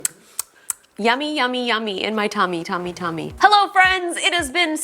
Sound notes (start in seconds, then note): 0.0 smacks lips; 3.6 upbeat joyful music